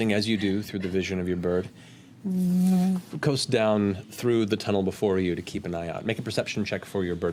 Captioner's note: hovering hum